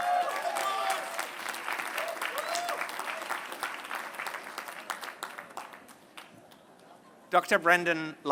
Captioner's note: applause